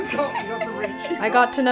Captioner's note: all laughing